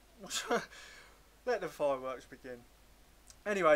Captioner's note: chuckles